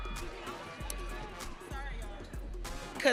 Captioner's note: audience cheering